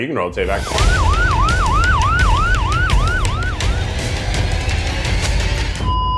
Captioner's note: upbeat suspenseful music; siren wailing; machine beeping